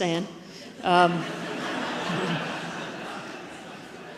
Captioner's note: audience laughs